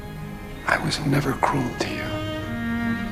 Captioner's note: voiceover